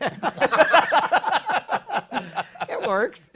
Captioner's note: laughter